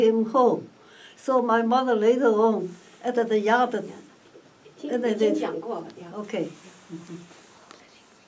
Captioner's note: in Mandarin